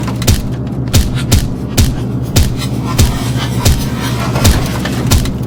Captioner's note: hitting sounds